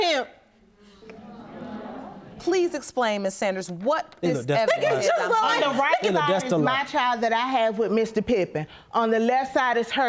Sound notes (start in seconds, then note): 1.1 audience reacts; 3.8 yelling